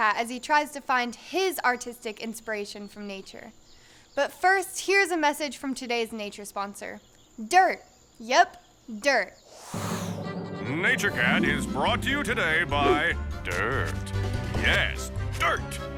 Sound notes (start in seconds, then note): 9.5 air whooshing; 9.8 dramatic orchestral music